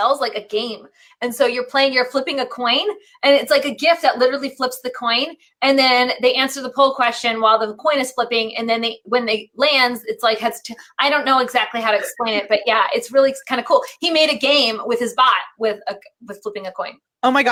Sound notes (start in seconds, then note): 10.6 laughing